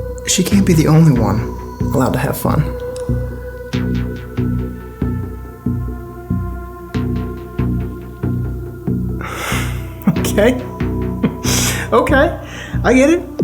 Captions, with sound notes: She can't be the only one allowed to have fun. (mysterious music) Okay? (chuckles) Okay, I get it.